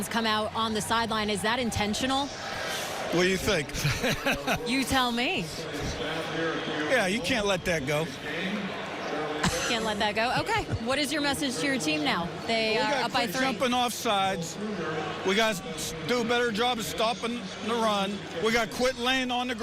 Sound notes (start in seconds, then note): 9.4 laughs